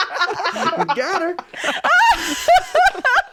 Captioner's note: laughing